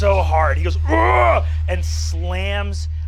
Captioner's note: roaring